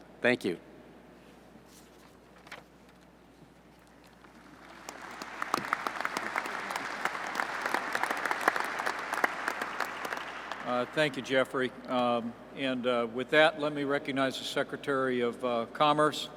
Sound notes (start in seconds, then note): 2.2 applause